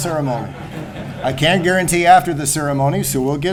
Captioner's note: laughter